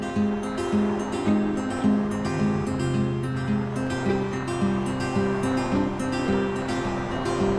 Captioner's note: cars passing